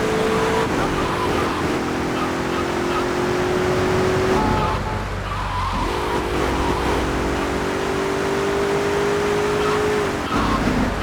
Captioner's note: engine revving